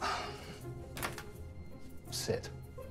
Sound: sighing

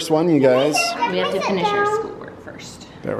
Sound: kids chatter

